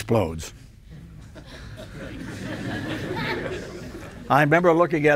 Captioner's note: audience laughs